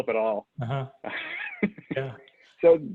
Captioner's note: laughing